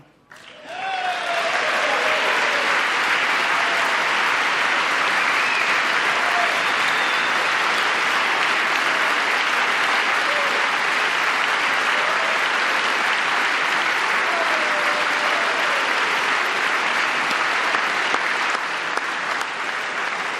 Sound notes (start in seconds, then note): 4.4 applause; 20.1 applause